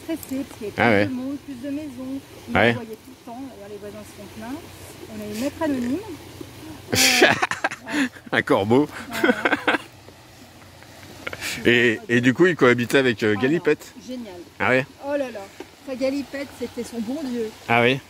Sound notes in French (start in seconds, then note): 9.4 rire idiot 😁